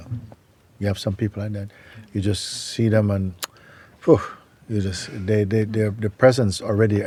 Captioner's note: mimics a switch